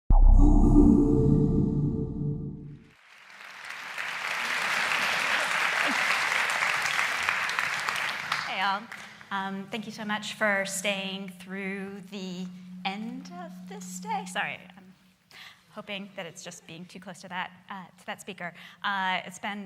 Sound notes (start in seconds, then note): 0.1 atmospheric electronic music; 2.8 applauding